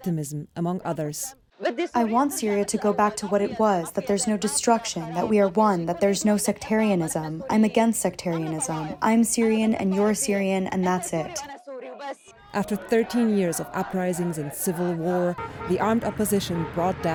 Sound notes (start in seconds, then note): 2.5 through translator